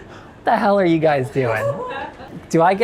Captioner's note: chuckling